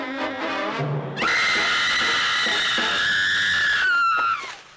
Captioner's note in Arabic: غلاديس تصرخ; صراخ جلاديس